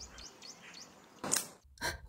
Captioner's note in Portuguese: som de galho quebrando